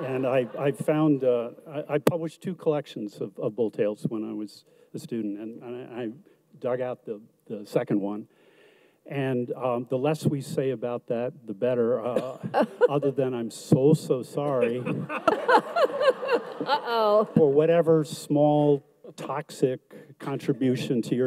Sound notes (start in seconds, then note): 14.5 audience laughs